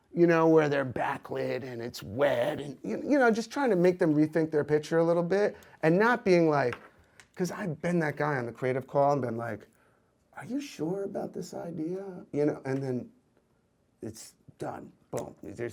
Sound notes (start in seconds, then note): none